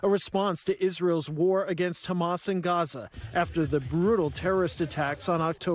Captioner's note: crowd chanting